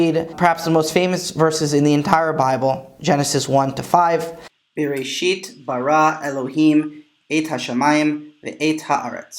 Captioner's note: Hebrew